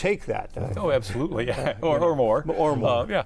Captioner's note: laughs